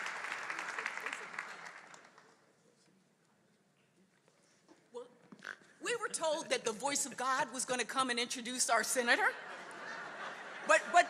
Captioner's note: applause